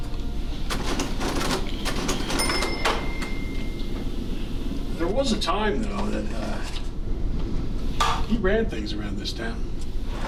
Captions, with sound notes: (register dings) There was a time though, that, uh, he ran things around this town.